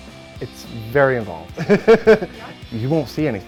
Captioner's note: laughs